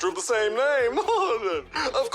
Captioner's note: chuckles